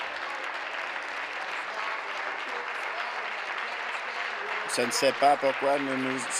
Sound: applause

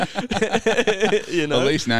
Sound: laughing

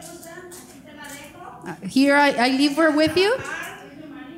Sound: speaking in foreign language

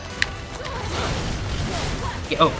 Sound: Bayonetta grunts

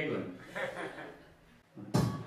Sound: audience giggles

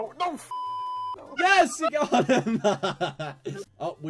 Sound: laughs

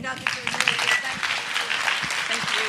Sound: applause

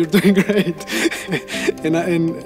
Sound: laughing

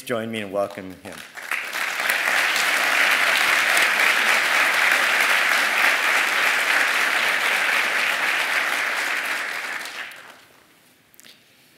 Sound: applause

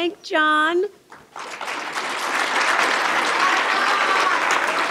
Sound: applause

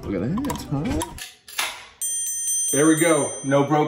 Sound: can cracking; dinging

